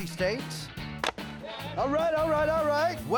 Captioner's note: chopping